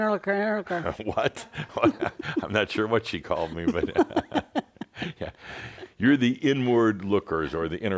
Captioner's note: they chuckle